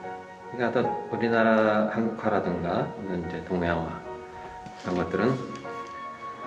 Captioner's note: continues speaking in Korean